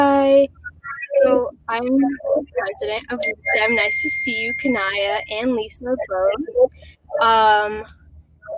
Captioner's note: technical glitch